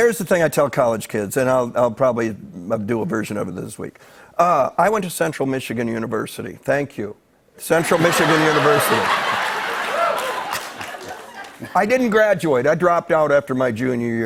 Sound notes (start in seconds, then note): 7.8 laughter and applause